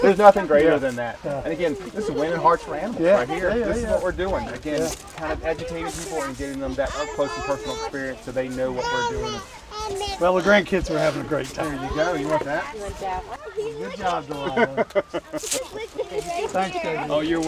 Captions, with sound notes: there's nothing greater than that. And again, this is winning hearts for animals right here. This is what we're doing. Again, kind of educating people and getting them that up close and personal experience so they know what we're doing. - Well, the grandkids are having a great time. - Here you go, you want that? - You want that one? - Good job, darling. (laughing) - Thank you, Jb.